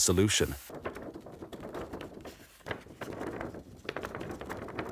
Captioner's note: paper rattling